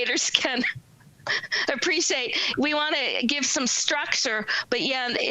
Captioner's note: laughs